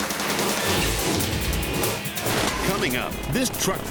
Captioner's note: upbeat music; graphics whooshing